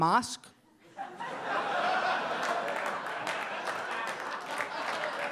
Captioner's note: audience laughing